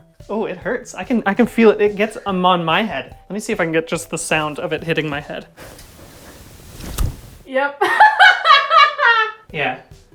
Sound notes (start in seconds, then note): 5.6 hair smack; 7.8 laughing